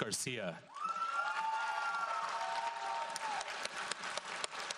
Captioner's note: audience applauds